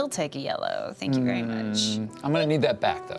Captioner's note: groans